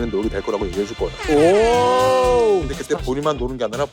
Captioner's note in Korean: 뿌이뿌이뿌이 효과음